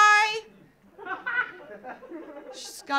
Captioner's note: audience laughing